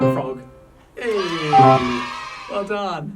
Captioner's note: cheers